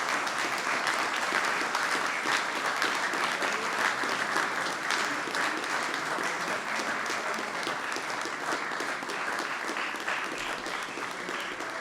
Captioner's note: applause